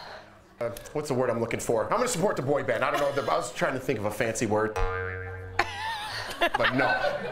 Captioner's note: laughter